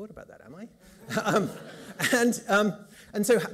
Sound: laughter

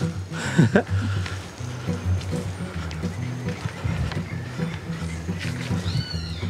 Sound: soft music; laughs

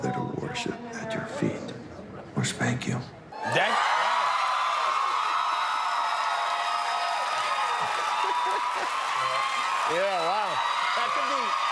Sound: cheers and applause

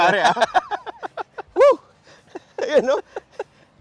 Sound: laughs

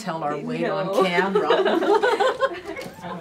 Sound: officer and cadet laugh

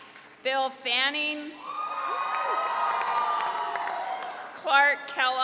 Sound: audience cheering

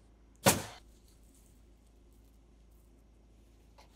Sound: cover crinkling

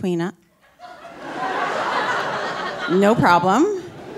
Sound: audience laughing

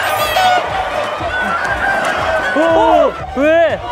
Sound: all the neighborhood chickens becoming one with the noise

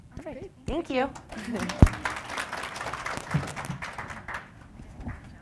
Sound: applause

